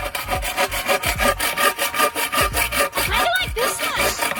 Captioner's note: blade scraping